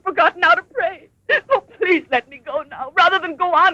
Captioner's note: sobbing